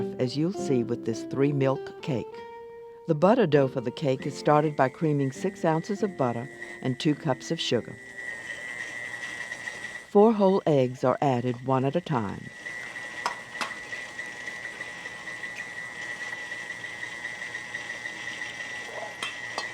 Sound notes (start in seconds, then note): 13.0 whirring